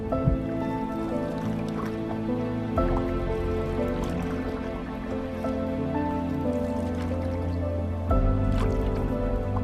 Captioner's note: water bubbling; suspenseful music